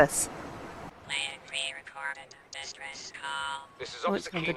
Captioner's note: computer voice